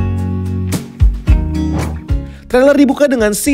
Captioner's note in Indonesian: suara transisi